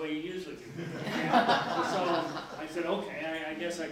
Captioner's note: laughing